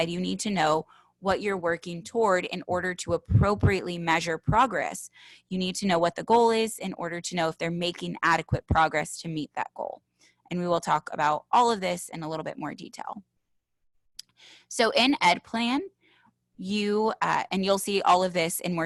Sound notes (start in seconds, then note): none